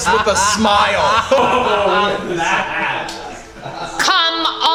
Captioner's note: group laughing